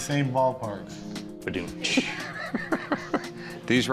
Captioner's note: Rick laughs